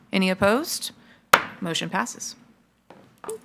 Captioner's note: gavel